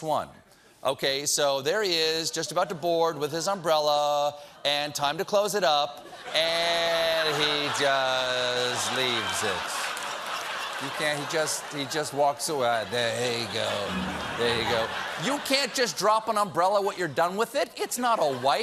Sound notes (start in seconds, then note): 12.7 laughter